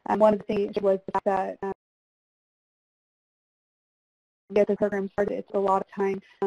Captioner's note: feedback drowning out speech